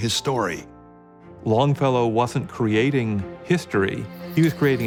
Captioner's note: bell